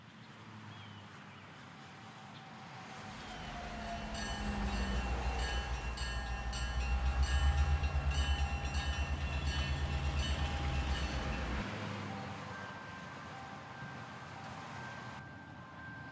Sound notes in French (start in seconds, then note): 3.8 Sonnerie et alarme de train; 11.9 musique douce de carillon